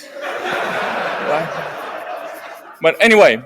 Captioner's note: laughter